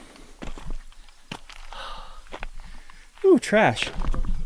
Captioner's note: sighing